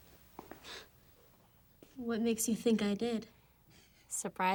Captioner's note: scoffs